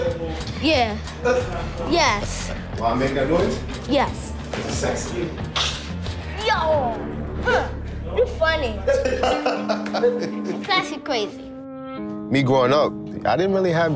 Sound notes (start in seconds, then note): 8.8 laughter